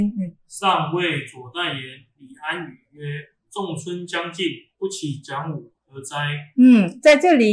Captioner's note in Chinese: 朗讀